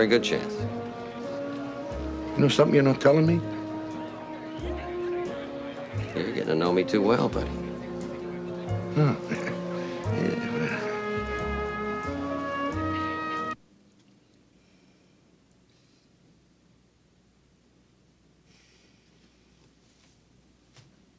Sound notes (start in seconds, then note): 8.8 sighs